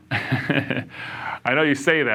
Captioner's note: laughs